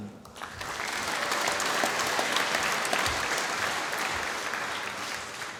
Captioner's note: applause